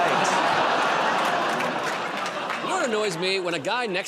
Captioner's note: laughter, groaning